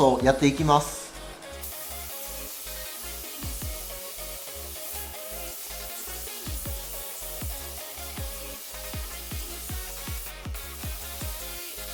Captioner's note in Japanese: 塗装音